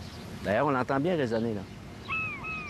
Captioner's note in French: cri mouette